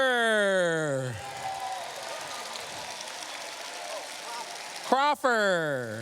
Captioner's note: cheers, applause